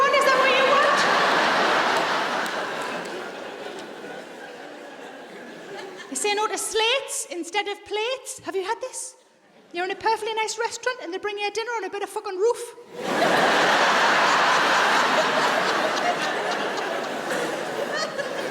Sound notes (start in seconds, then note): 12.9 audience laughs